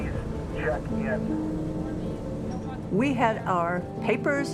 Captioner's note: talking in background